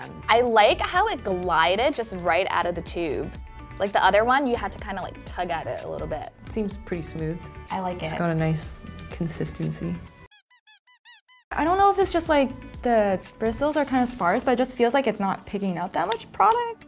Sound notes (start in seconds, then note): 10.2 squeaking